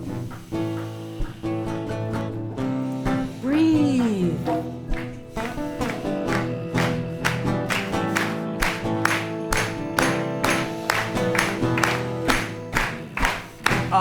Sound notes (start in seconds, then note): 2.2 everyone starts clapping and sings